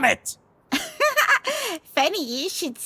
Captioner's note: laughs